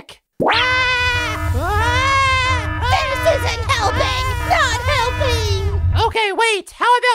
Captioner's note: screams